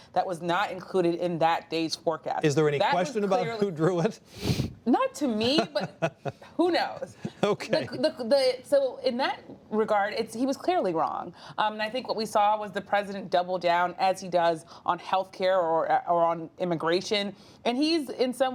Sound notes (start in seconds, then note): 5.3 laughs